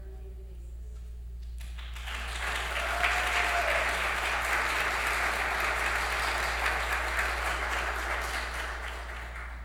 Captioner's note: applause